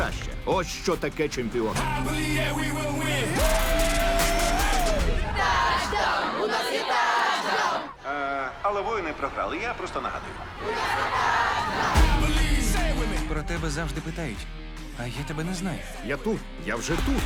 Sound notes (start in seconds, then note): 4.9 all chanting